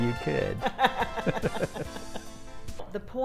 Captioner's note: laughs